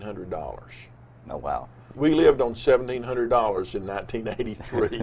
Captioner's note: both laughs